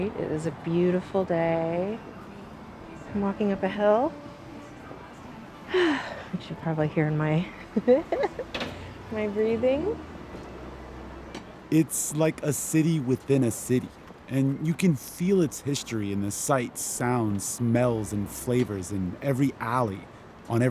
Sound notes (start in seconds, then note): 7.6 laughter